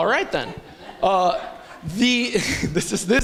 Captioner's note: laughter